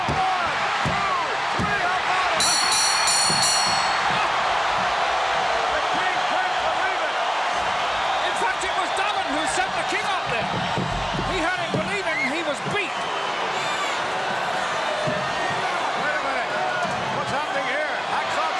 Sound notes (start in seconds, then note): 2.4 bell rings; 3.1 crowd cheers